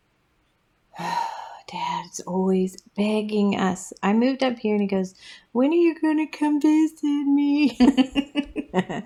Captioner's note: sigh; laugh